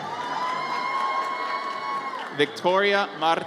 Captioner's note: audience cheers